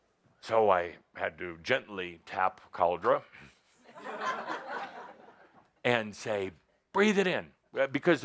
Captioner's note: laughter as he smacks someone